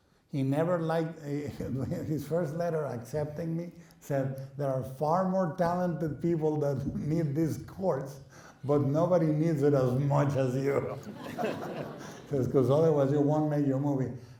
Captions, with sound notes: He never liked... [chuckles] His first letter accepting me said, there are far more talented people that need this course, but nobody needs it as much as you. [laughing] Coz-coz otherwise you won't make your movie.